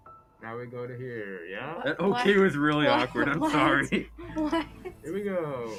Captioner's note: confused sounds